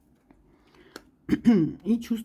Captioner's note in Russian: откашливается